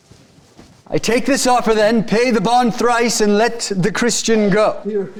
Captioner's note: none